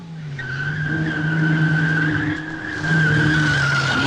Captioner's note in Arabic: اصوات صرير الاطارات